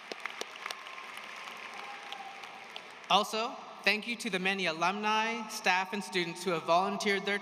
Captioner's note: applause